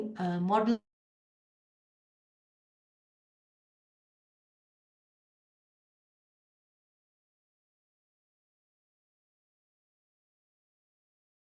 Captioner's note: audio lost